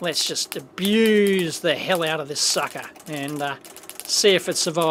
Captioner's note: snapping sound continues